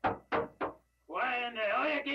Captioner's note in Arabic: طرق الباب